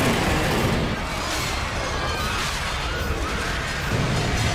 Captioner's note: screaming